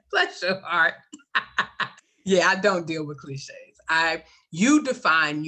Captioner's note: laughs